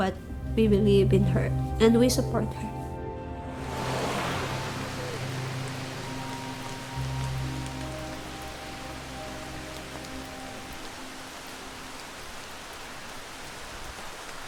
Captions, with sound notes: But we believe in her and we support her. (rain pours)